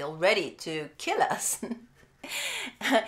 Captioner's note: chuckle